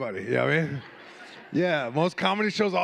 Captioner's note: audience laughing